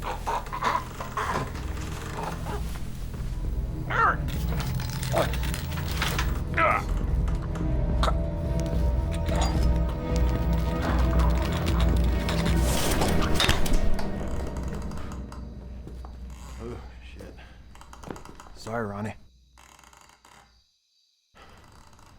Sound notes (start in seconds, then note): 0.1 Ronny gurgling; 13.4 neck snapping; 14.8 rafters creaking